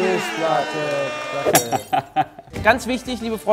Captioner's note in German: Jubel, Buzzer; Klirren, Lachen